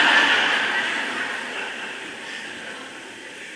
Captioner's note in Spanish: Risas